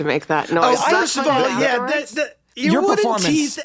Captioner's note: everyone talking